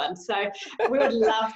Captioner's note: laughs